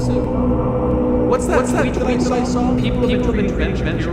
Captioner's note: echoing